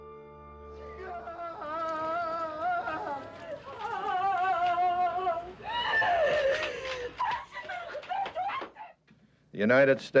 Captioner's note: grieving relatives/woman screaming